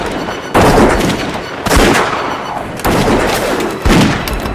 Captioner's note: gunfire